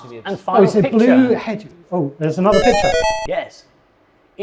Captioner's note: video games beeping